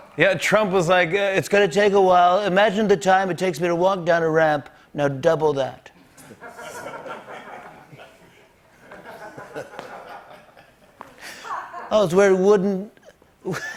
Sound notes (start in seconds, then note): 6.2 laughter